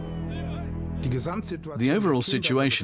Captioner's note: speaking German